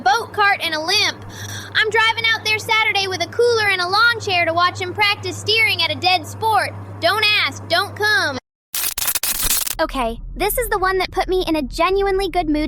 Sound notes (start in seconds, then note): 1.2 breath